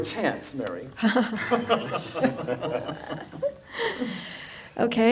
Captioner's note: laugh